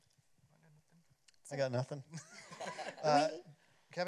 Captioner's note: laughter